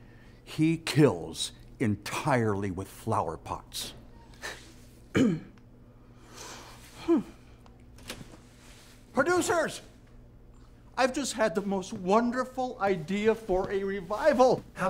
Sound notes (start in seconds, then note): 4.2 chuckles; 5.1 clears throat